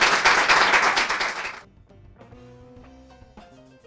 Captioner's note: applause